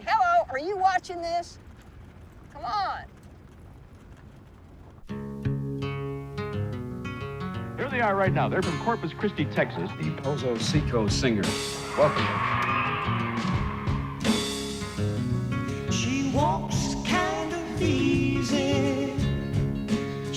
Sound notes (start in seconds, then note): 4.9 upbeat folk music; 11.5 audience cheering